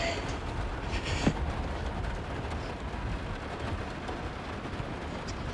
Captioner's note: crying